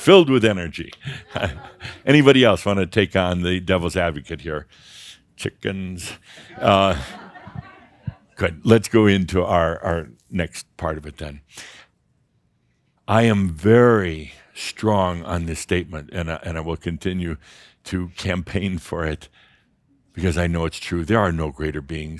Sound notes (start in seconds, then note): 0.0 more chuckles and Adamus laughs; 6.3 a few chuckles